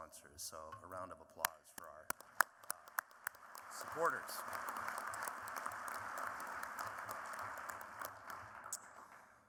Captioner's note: applause